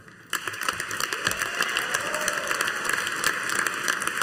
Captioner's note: audience applauding